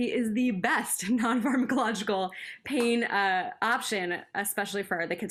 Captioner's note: laughter